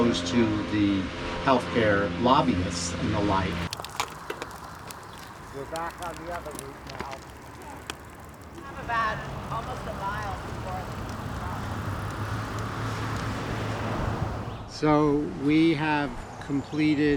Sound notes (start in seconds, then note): 6.0 cyclists chattering